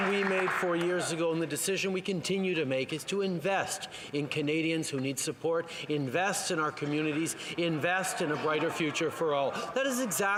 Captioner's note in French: voix de l'interprète